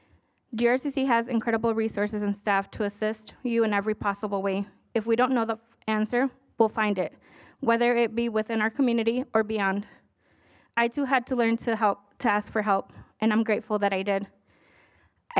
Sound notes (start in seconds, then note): none